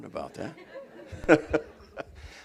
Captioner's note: laughter